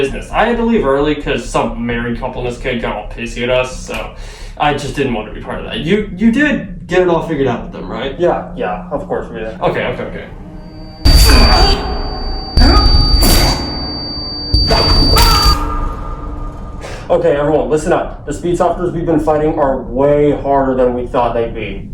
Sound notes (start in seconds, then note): 11.1 exclaims; 11.4 choking; 14.7 screaming and gagging